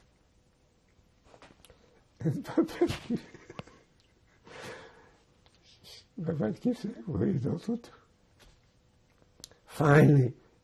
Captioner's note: laughing